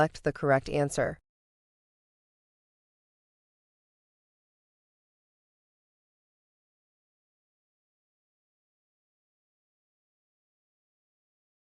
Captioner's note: no audio